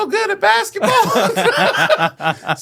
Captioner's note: laughing